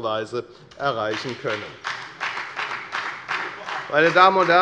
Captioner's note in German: Beifall bei der FDP